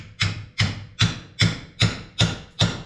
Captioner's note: hammering